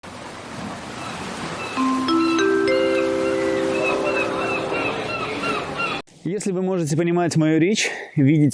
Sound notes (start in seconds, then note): 1.0 waves crashing; 1.8 intro music